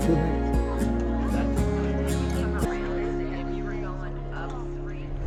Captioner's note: people chattering